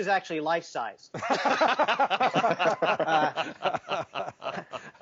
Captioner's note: all laughing